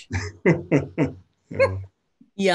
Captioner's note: both laughing